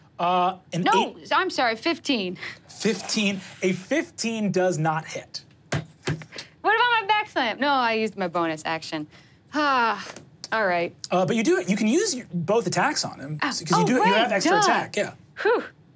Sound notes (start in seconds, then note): 9.7 sighs